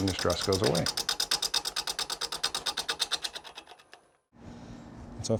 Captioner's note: wood clicking